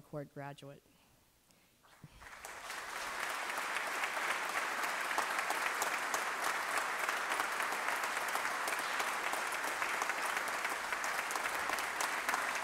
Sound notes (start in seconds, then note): 1.9 applause